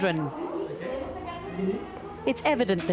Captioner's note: children chattering